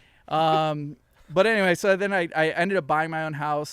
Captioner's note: all laughing